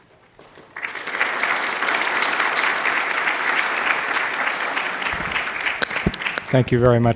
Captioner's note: applause